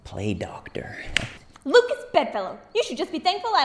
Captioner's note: slapping hand